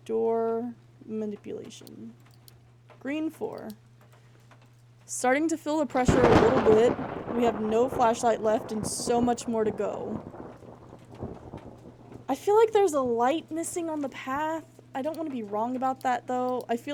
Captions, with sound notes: Door Manipulation. Green 4. Starting to feel the pressure [Thunder] a little bit. We have no flashlight left and so much more to go. I feel like there's a light missing on the path. I don't want to be wrong about that, though.